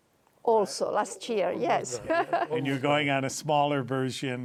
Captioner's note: laughing